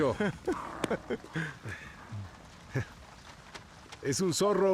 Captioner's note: growls softly